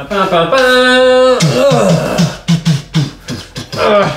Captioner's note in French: chantonne